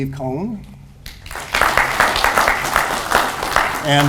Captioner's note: audience applauds